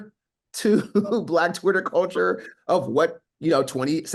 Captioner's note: laughs